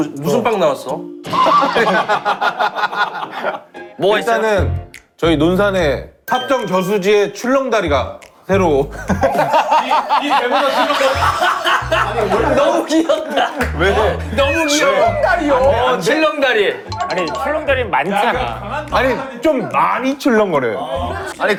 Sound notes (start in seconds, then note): 1.3 bursts into laughter; 10.7 mocking laugh